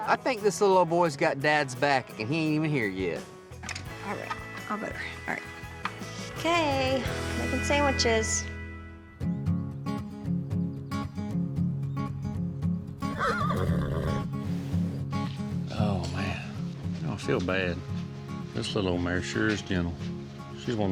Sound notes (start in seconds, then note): 13.0 horse neighs